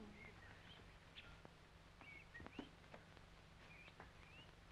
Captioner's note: birds chirping